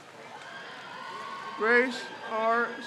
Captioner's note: crowd cheers